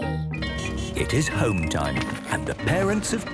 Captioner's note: bell ringing, beeping